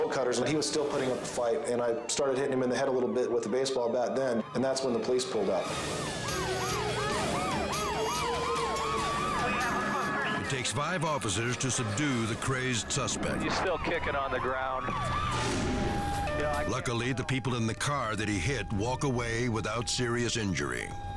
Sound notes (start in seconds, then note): 7.2 dramatic music; 7.2 sirens wailing